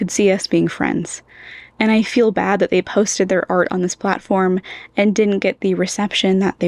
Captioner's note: inhale; inhale